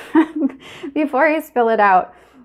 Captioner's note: laughing